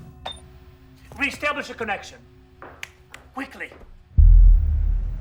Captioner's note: snaps; tense music begins